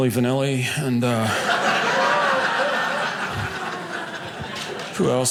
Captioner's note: audience laughing